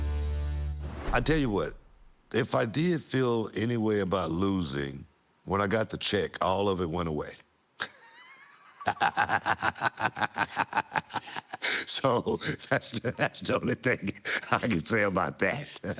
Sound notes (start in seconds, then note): 7.5 laughing; 15.1 laughing